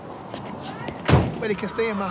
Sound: van door slams shut

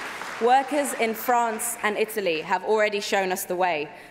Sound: applause

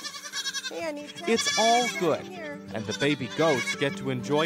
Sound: goats bleating; voiceover

